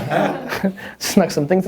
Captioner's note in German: Lachen